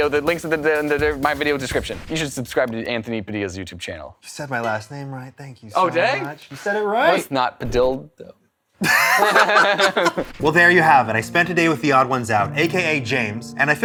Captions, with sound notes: The links are there under my video description. You should subscribe to Anthony Padilla's YouTube channel. You said my last name right. Thank you so much. Oh dang. You said it right. That's not Padildo. [laughter] Well, there you have it. I spent a day with the TheOdd1sOut, aka James.